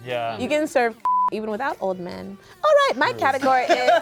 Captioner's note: beep